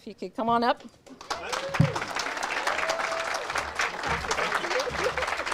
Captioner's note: audience cheers and applauds